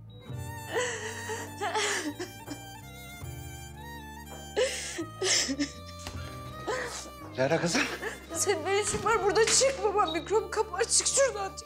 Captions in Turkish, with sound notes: [Ağlıyor] [Kapı Açılıyor] Lara, kızım. Senin ne işin var burada? Çık babam mikrop kapar, çık şuradan.